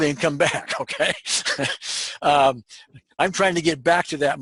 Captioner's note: laugh